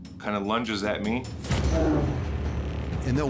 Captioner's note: bear growls